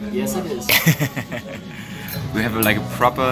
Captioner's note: laughter